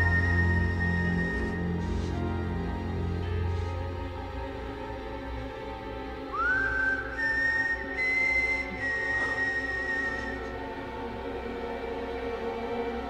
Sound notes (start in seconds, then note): 6.2 whistling